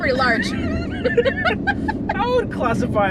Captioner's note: both laugh